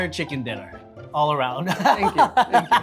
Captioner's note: laughs